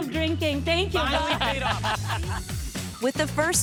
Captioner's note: laughing